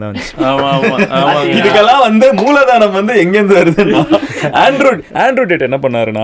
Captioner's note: group laughs